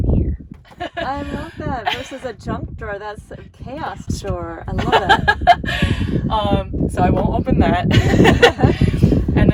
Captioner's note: laughing